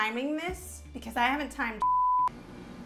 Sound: beep

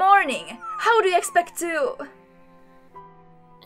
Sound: Layali whimpers

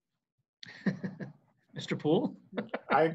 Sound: laughs

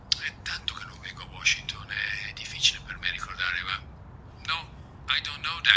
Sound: speaking in Italian

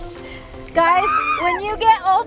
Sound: screams

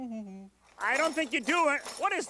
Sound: metal clanking

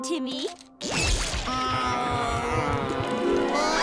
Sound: groaning; screaming

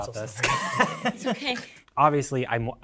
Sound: chuckling

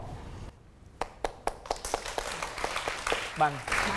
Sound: applause

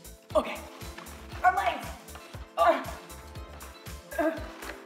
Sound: grunts

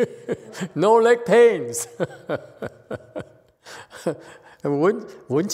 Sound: laughs

